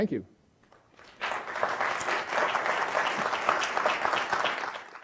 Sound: audience applauding

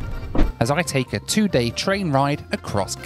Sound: voiceover

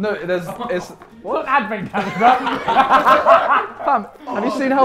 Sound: laughs

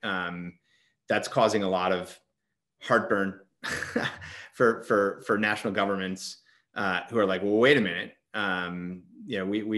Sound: chuckles

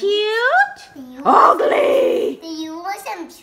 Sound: voiceover

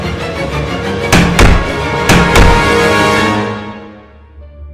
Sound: bang

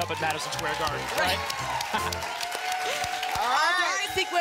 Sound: applause and cheering

